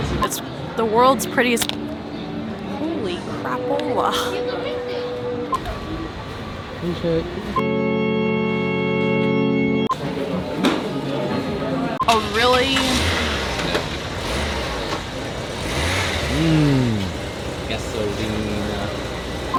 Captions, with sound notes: It's the world's prettiest. Holy crap. Alicia... A really...[car starts] [car revs engine] Hmmm... “Gasolina.”